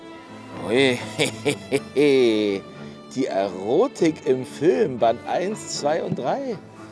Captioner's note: laughs